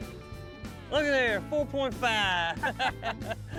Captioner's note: laughs